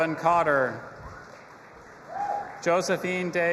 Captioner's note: audience applauding and cheering